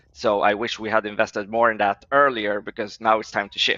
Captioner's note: none